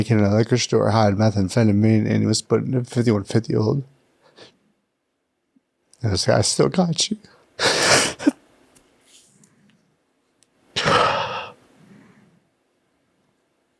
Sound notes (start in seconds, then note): 10.5 laughs; 10.7 sighs